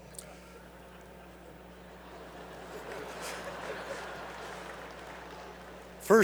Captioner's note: applause